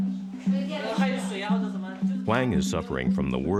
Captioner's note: interviewees speaking in foreign language